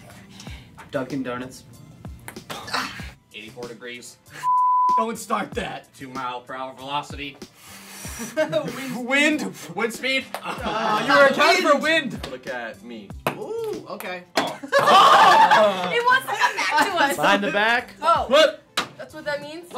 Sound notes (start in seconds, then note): 2.5 groaning; 7.8 blowing; 14.6 laughter